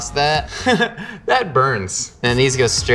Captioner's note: chuckles